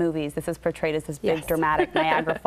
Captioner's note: laughs